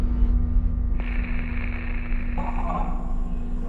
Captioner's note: static